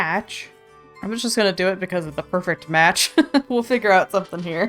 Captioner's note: laughs